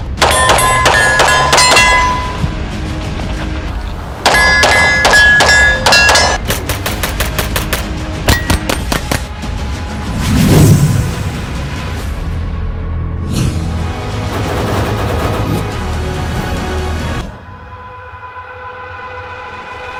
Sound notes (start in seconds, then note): 0.2 bullets pinging; 6.5 gunfire popping; 10.0 air whooshing; 13.4 air whooshing; 14.2 dramatic music